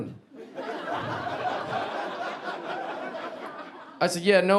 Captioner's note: audience laughing